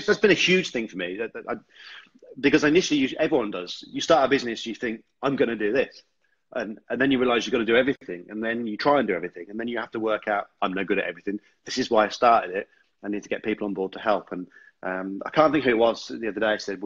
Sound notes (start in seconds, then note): none